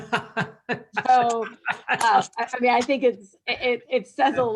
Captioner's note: laugh